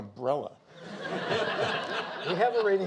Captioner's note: audience laughing